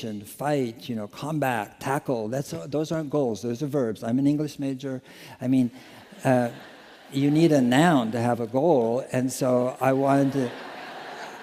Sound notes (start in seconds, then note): 5.0 laughter